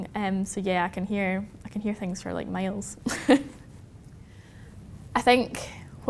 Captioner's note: chuckles